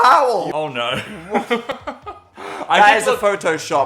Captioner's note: Phil laughing